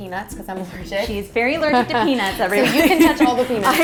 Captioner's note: laughs